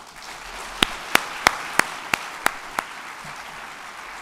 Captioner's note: applause